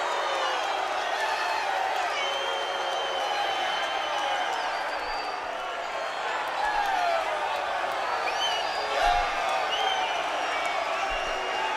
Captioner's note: crowd cheering; crowd chatter